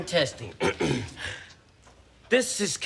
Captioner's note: clears throat